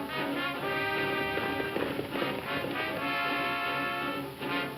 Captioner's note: hooves thumping